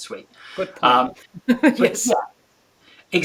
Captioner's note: chuckles